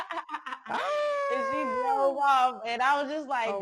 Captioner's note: both women laugh